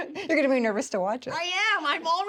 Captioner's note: laughs